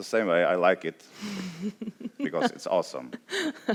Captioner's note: laughs